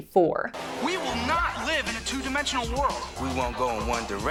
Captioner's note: 90s advertising voice